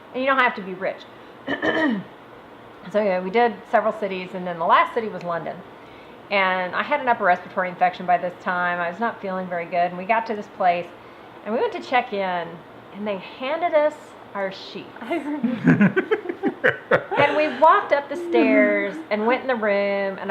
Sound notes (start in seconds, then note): 15.1 laughs